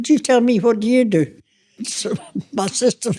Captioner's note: laughter